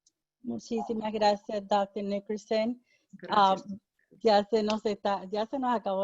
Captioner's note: speaking in foreign language